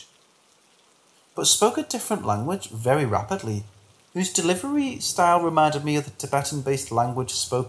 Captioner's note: very rapidly